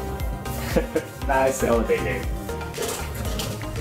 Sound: chuckle

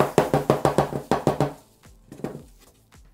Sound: banging

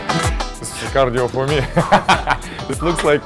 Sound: laughs

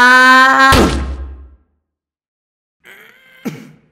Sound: splat

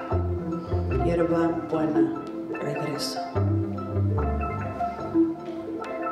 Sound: speaking in Spanish

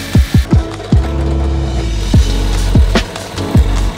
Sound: motor clanking

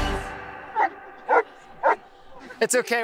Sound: barks

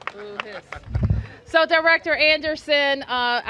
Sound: laughter

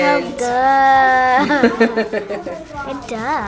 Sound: laughs

